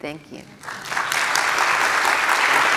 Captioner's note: applause